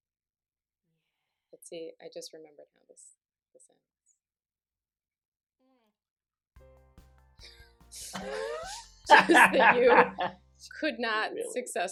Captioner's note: laughter